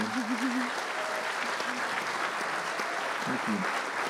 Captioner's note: applause